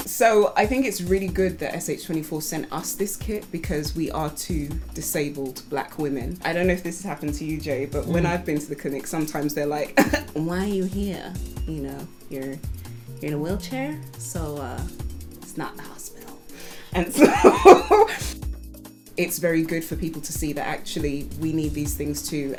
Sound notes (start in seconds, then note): 17.1 laughs